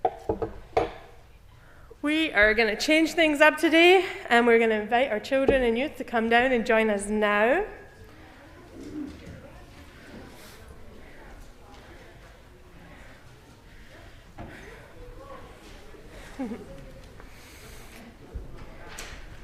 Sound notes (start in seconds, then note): 7.8 silence